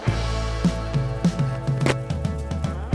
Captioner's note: plastic crinkling; upbeat music